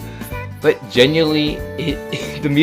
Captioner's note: tries not to laugh